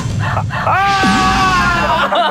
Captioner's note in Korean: 아아아악